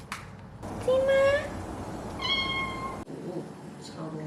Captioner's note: meow